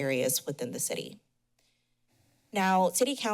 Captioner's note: pause